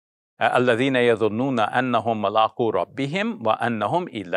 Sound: speaks in arabic

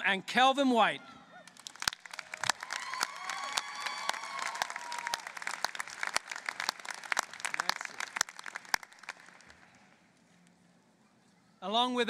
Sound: applause

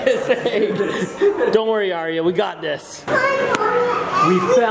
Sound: laughs

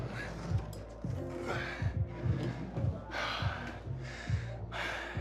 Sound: catching breath

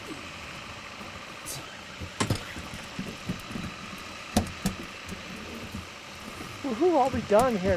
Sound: boat engine idling

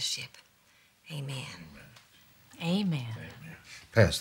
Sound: chorus of "Amen"

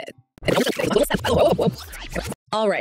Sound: tape rewinding

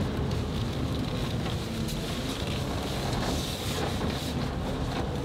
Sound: engine rumbling

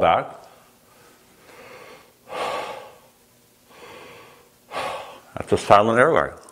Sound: breathing

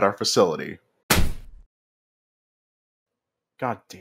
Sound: confetti Cannons

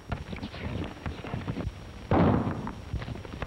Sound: gunshots

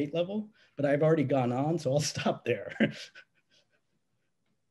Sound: chuckling

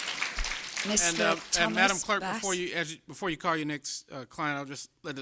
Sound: applause

